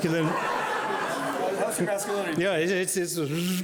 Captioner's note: laughing drowns out speech